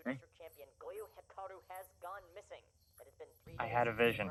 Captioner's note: on Radio